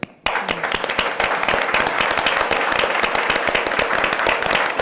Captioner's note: audience applauds